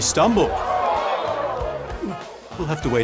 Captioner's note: gasping